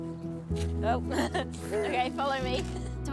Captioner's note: both chuckle